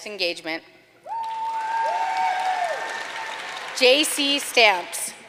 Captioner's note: audience cheering and applauding